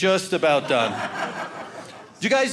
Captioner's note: audience laughing